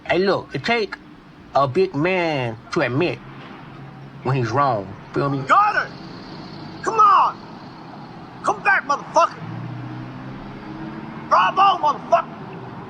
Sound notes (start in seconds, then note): 3.4 cars in background; 6.2 loud engines; 9.6 loud engines